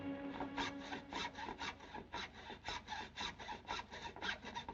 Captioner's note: sawing